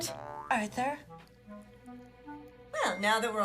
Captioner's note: none